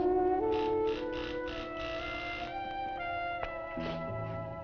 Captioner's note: door buzzing